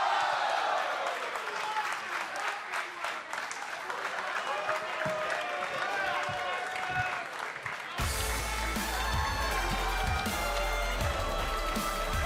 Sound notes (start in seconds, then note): 2.2 applause